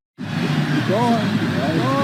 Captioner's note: crowd cheering